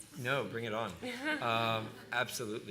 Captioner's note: laughter